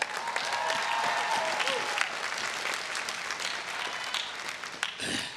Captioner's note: everyone cheering and applauding